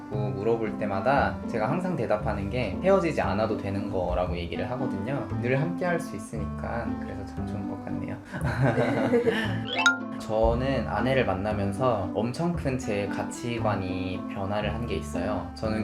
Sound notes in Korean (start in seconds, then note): 8.3 웃음